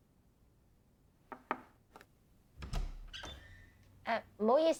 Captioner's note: knock on door